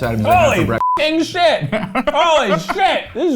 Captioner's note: beep